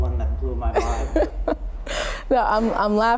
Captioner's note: chuckle